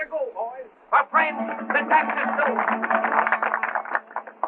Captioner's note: applause